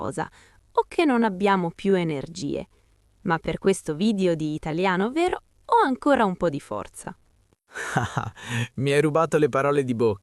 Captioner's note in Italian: risate